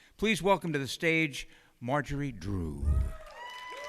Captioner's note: cheers and applause